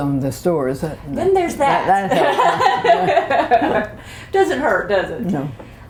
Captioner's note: laughter